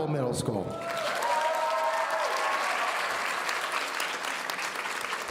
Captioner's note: audience cheering